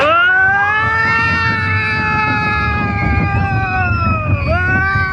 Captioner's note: people screaming